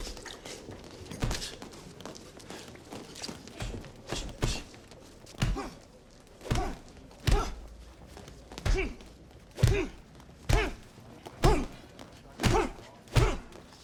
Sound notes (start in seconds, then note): 0.3 fighters grunt and exhale sharply; 8.4 fighters shout and grunt